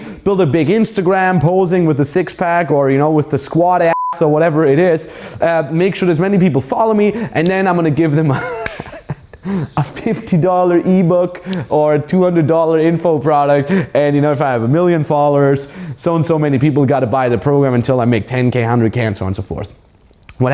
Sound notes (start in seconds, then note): 3.9 beep; 8.2 laughs